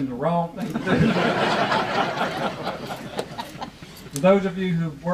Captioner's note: audience laughing